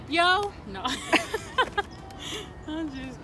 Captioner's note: laughs